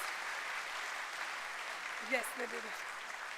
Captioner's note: applause